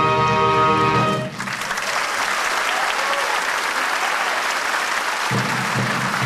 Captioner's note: applause; drum beats as band walks offstage; applause